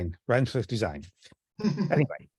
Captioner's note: laughs